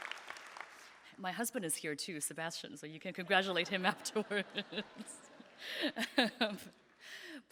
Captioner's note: laughing